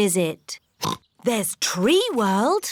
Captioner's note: oinks